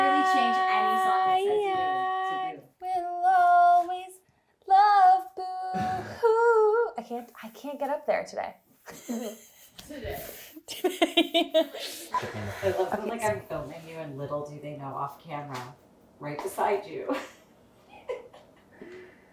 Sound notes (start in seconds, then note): 9.3 laughing; 12.1 laughing